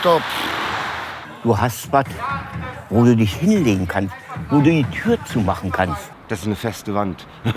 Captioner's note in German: männliche Stimme, Berliner Dialekt; Lacht